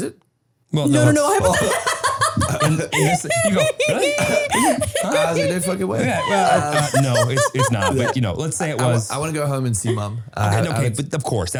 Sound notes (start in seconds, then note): 0.9 laughing